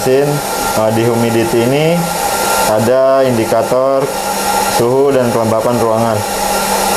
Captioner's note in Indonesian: suara mesin